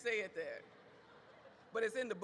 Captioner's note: audience laughs